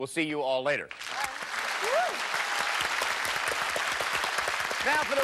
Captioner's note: applause